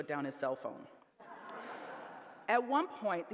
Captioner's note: laughter